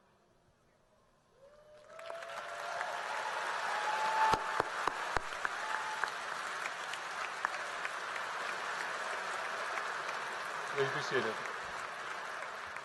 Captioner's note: applause